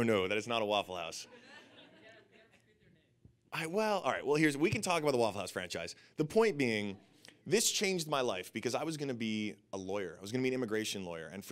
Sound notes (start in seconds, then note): 3.2 audience laughing